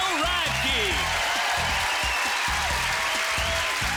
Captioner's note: cheers and applause